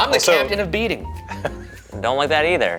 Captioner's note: laughing